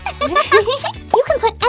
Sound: both giggle

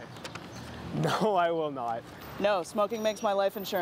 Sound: laughter

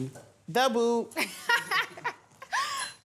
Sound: laughs

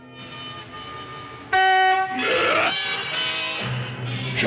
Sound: Honk caveman screams; caveman speaking

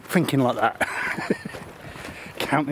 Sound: laughs

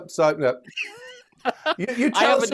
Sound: laughs

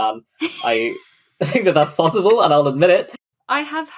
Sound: laughing

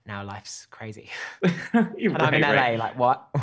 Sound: laughs

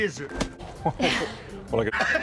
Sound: laughs

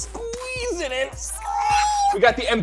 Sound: high pitched voice

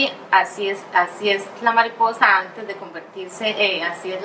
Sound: speaking in Spanish

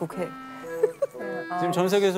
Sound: ha ha ha

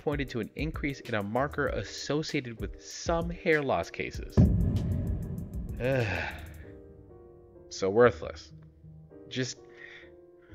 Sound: sigh

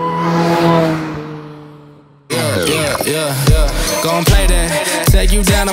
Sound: car engines roaring

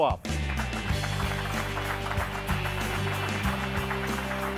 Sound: electronic music; clapping

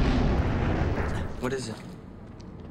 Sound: thunder

